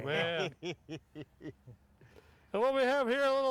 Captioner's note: laughs